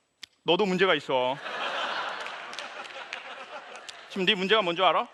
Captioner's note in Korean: 웃음